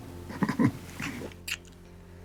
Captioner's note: chuckles